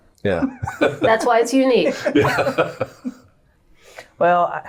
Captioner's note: laughing